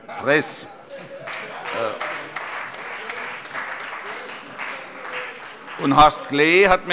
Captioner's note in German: Heiterkeit - Beifall bei dem BÜNDNIS 90/DIE GRÜNEN